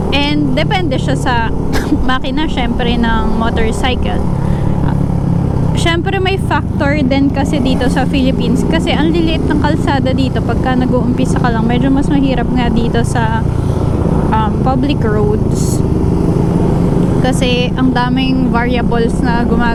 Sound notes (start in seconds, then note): 10.3 motorcycles; 13.2 motorcycles